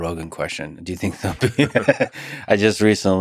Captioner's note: laughs